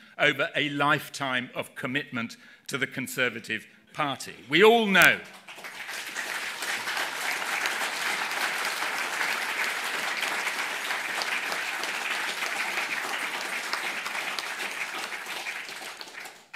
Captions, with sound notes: over a lifetime of commitment to the Conservative Party. We all know..... [APPLAUSE] [APPLAUSE]